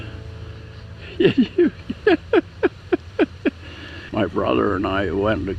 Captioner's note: laughing